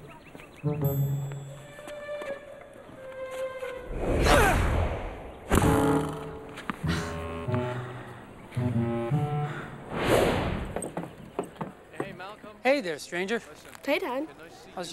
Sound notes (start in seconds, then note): 4.2 grunts